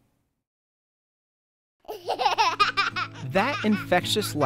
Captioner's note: child laughing